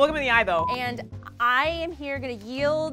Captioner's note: monotonous high pitch sound